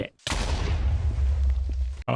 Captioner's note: explosion